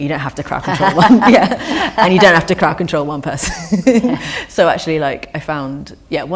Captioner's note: laughter